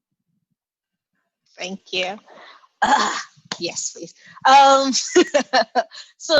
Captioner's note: laughs